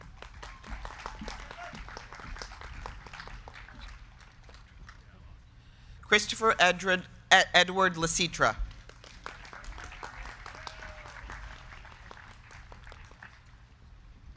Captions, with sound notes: (crowd cheering) (crowd clapping) Christopher Edward Licitra. (crowd clapping)